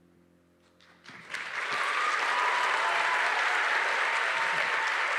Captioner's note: audience cheering